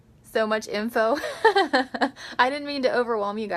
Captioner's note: laughs